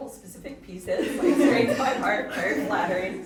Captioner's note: audience chuckling